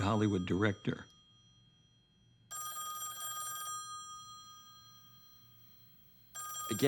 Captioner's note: phone ringing